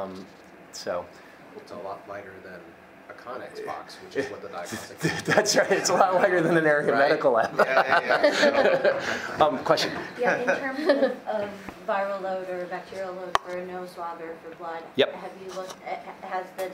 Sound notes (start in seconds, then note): 6.7 murmurs; 7.3 many laughing